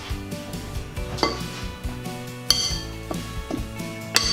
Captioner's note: spoon clanking against bowl